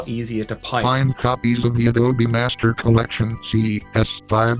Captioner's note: robotic voice